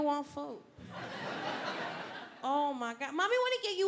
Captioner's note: audience laughing